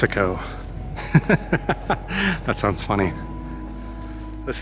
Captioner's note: laughter